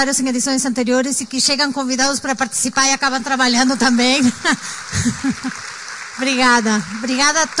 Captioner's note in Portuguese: applause